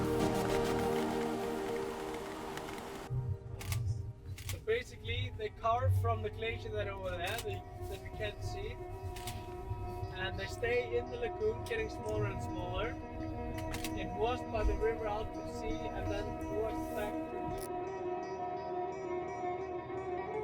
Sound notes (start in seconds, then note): 4.3 camera snapping; 17.7 somber music